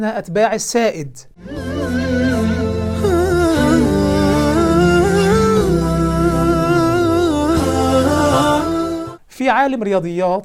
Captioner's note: logo and sound effect